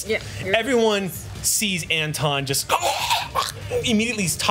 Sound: choking

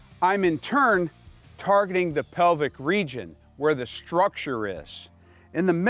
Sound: none

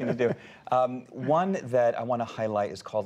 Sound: laughter

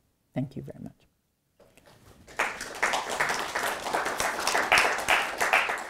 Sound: audience applauds

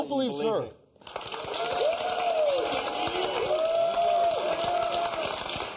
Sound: audience applauding

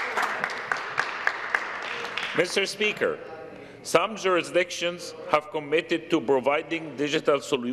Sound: some Applause

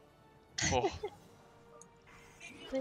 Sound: haha

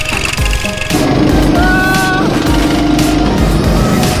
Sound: motors roaring

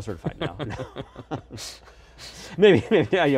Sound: laughing

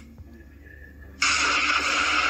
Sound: zaps

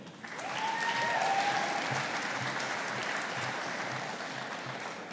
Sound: audience applauding

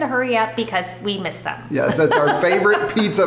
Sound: both laughing

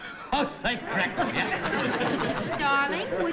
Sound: laughing

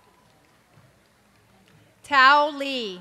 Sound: cheers and applause

